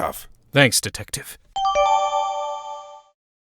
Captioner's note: whispering